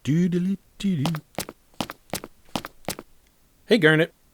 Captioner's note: footsteps